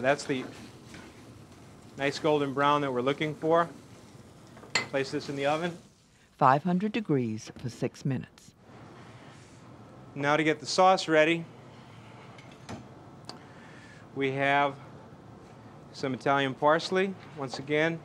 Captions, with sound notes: So that's the nice golden brown that we're looking for. Place this in the oven. - [Voiceover] 500 degrees for six minutes. - Now to get the sauce ready we have some Italian parsley, once again.